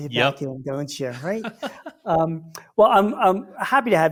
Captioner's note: chuckles